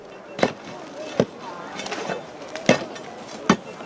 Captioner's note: bubble of voices